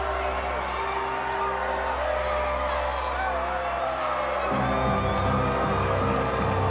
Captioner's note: motivational instrumental music; crowd applauding; crowd cheering